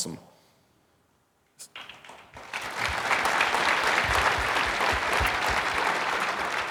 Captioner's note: audience applauding